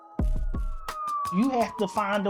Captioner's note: sirens wail